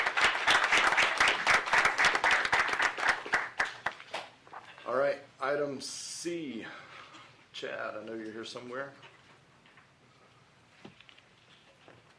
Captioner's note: applause